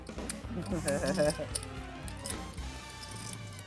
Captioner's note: laughing